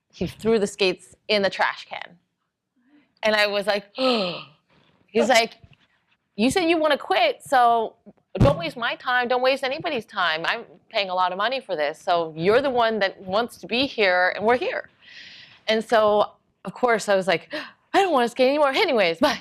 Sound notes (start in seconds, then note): 4.0 gasping